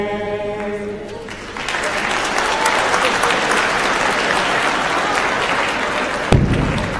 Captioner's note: applause